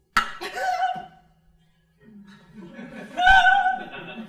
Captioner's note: crying